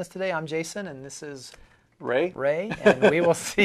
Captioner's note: laughing